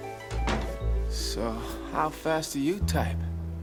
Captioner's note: door closes